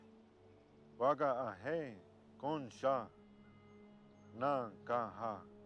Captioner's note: speaking in foreign language